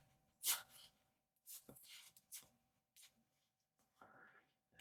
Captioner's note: silence